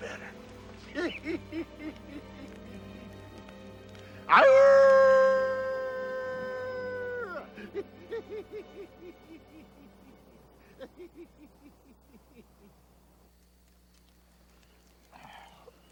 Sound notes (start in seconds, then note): 4.2 Jebadiah howls